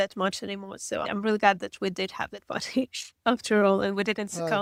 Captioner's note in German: lacht